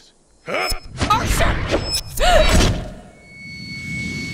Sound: gasp

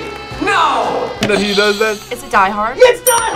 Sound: buzzer rings

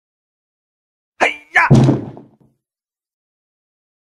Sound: sound of karate

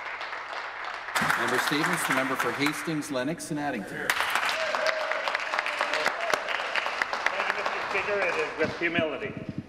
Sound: some Applause

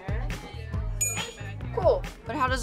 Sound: ping!

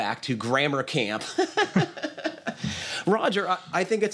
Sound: laughter

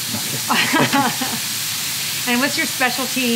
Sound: chuckling

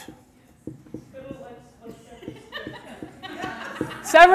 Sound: audience talking, giggling

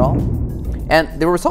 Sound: rig booms

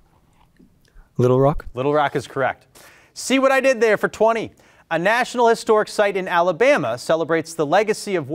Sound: none

